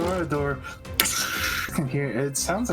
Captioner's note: TSHHHhh